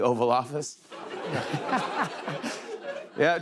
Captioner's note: laughter